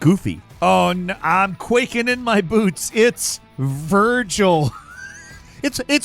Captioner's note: chuckles